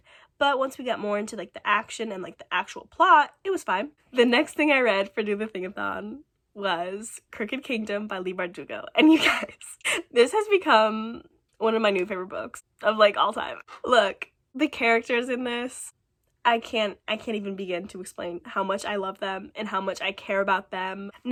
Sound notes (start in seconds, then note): 9.0 laughing